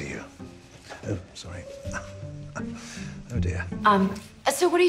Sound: chuckles

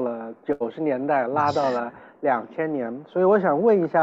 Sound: laughs

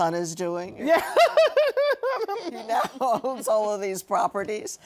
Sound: laughter

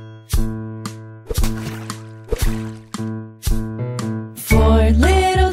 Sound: water splashing

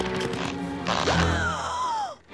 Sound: gasping

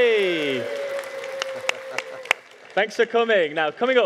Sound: audience cheering

